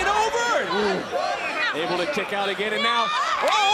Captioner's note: crowd chants